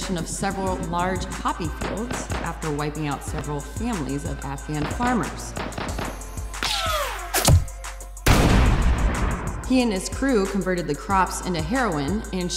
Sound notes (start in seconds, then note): 5.5 gunshots firing